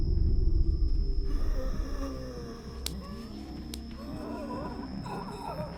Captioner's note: zombies growling